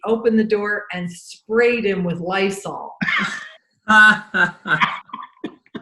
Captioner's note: laughing